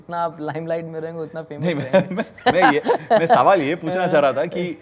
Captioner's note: laughs